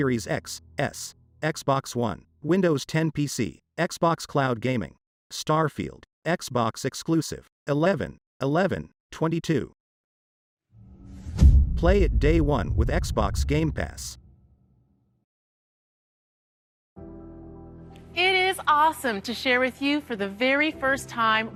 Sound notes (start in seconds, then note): 10.8 dramatic sound